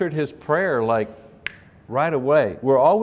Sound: snaps fingers

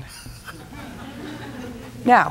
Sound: laughter

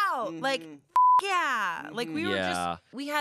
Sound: beep

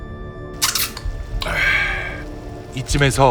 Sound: exclaiming

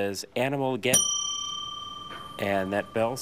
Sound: bell dings

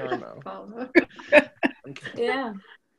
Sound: laughing

